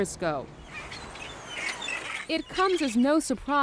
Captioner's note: birds calling